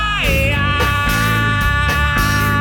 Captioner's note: none